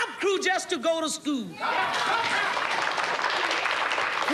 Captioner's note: audience cheers and applauds